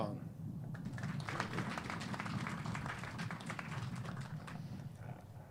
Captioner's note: clapping